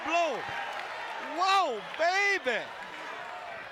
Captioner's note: applause